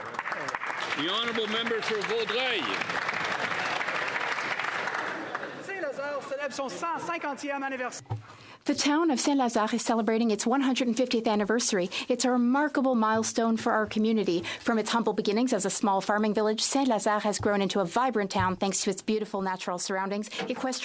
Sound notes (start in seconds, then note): 12.6 speaking French